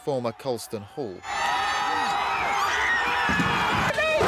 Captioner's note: crowd screams